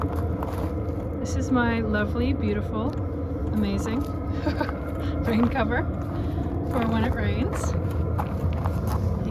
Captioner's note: haha!